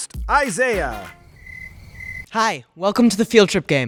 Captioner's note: crickets chirping